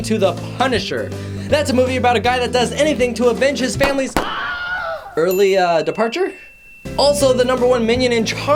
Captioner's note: gun shots